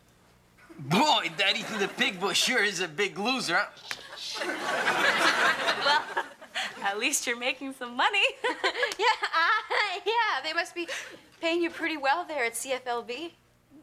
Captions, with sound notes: - Boy, that Ethan the Pig Boy sure is a big loser. (audience laughing) - Well, at least you're making some money. (Morgan laughs) - Yeah. Yeah. They must be paying you pretty well there at CFLB.